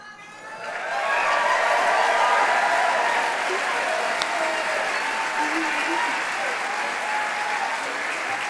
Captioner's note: applause